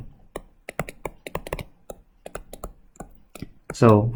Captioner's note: keyboard clicks